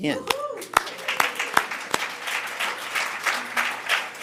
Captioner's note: audience clapping